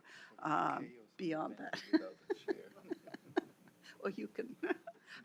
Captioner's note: chuckling